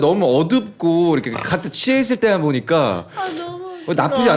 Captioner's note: someone's swallowing their snort